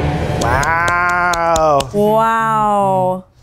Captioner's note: hands clapping